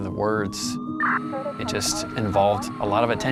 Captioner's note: siren blaring